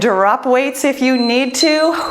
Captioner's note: timer beeps